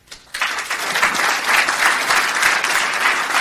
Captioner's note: clapping